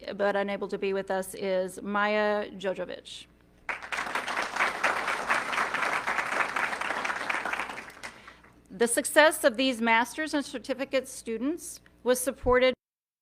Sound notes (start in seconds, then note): 3.6 audience clapping